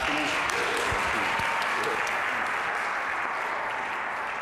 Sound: audience applauding

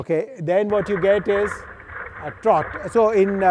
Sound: feet clatter

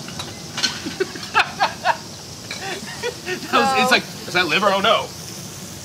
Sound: laughs loudly

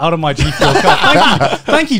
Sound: laughing

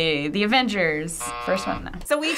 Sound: buzzer

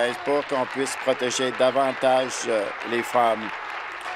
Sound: applause

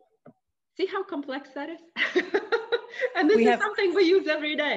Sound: laughing

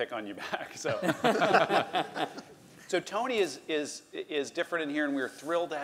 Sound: laugh

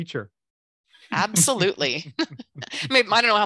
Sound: chuckles

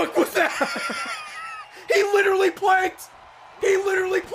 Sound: laughs

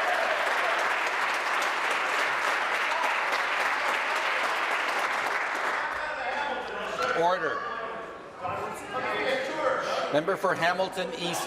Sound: applause

